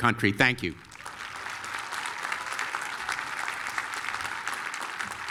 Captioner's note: applause